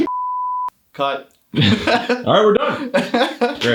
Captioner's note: laughs